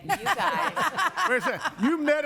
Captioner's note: laughing